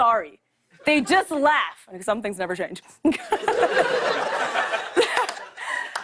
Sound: laughter

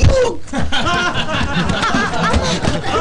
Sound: laughing

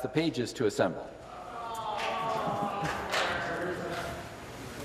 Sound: applause

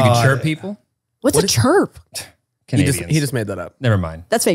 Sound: scoffs

